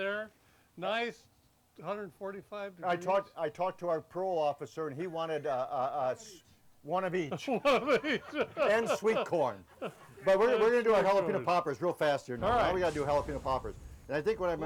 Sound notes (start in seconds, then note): 7.4 laughs